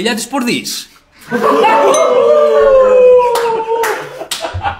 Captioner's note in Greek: γέλια